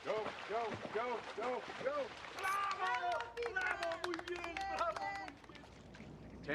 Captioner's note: applause